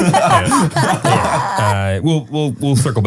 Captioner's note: group laughing